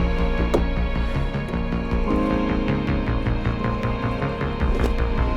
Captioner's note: fishing rod clinking